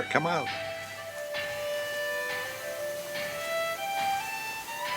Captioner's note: metal clanging